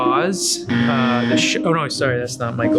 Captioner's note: buzzer buzzes